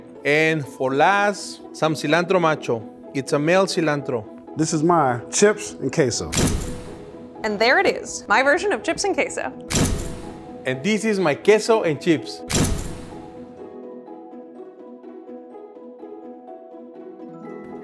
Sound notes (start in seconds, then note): 6.3 dramatic thump; 9.7 dramatic thump; 12.5 dramatic thump; 13.9 orchestral music